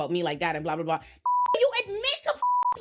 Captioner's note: beep